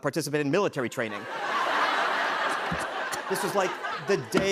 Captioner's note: laughter